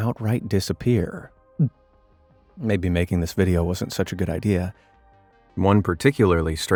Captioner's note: gulps